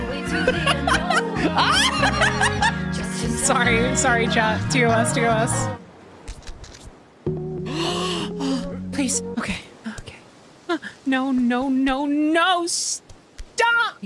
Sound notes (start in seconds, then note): 0.3 laughter; 7.7 gasp